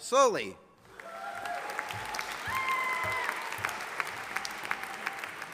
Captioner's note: audience applauding